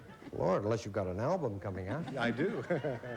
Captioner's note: chuckles